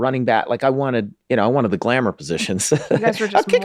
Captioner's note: laughing